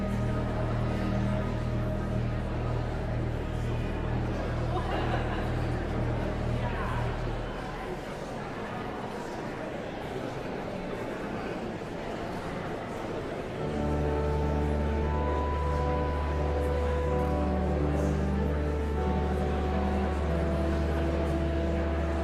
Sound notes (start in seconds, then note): 0.0 whimsical organ music continues; 0.2 audience chattering continues; 9.7 audience chattering continues; 13.6 joyful organ music; 18.0 audience chattering continues